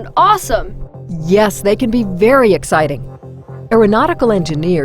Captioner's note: voiceover